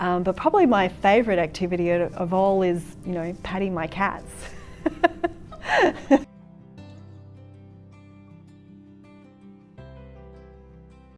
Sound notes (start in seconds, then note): 4.5 laughs; 6.9 gentle music